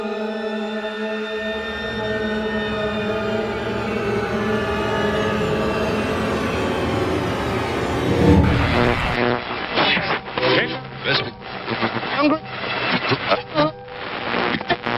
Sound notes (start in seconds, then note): 8.5 radio warbling; 8.5 static crackling